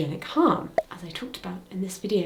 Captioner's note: thumbnail pops